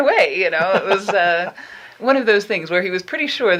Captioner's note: laughing